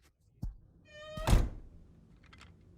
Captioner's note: door creaks